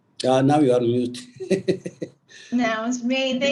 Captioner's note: laughs